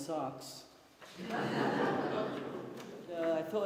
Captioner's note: laughter